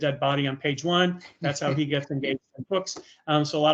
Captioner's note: laughing